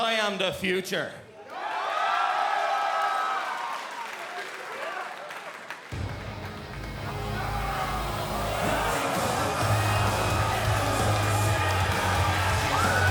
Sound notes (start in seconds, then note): 1.4 cheers & applause